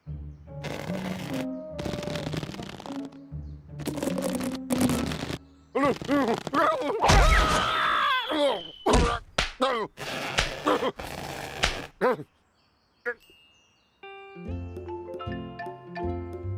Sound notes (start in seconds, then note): 6.1 nervous stammering; 9.6 grunts